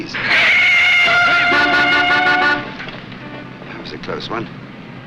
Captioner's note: car tires squealing; horns honking